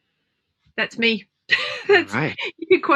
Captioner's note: laughs